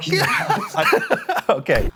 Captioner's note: laughter